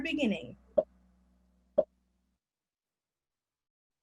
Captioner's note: popping